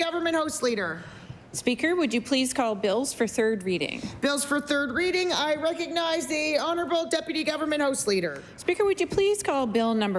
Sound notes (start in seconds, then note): none